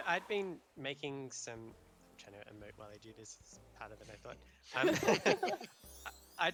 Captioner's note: laughter